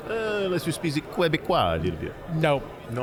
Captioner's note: speaking bad French